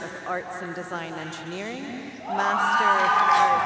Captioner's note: audience cheering